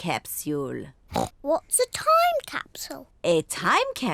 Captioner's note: oinks